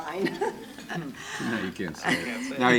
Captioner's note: laughing